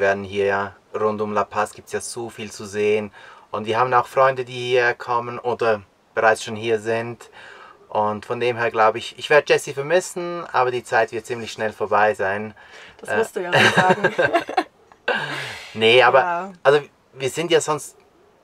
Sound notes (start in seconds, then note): 13.5 laughter